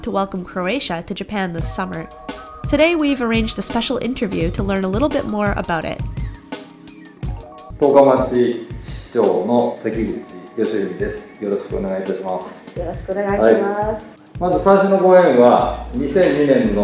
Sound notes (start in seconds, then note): 8.0 speaking Japanese